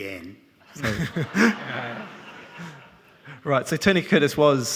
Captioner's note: all laughing